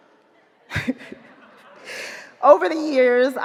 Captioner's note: audience laughing